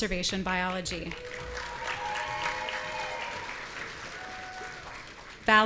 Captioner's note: audience cheering